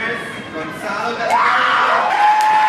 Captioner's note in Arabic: الجمهور يهتف بشدة